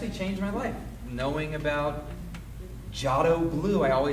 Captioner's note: speaks a foreign language